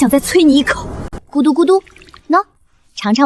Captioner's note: gulp